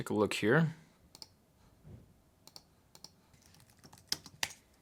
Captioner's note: mouse clicking